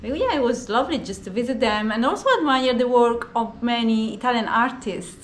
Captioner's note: none